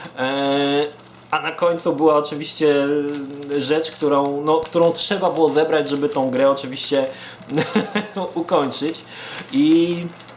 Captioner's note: chuckles